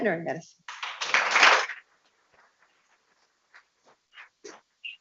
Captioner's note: people clapping